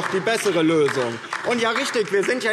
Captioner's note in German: Beifall DIE LINKE